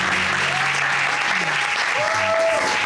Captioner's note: audience cheer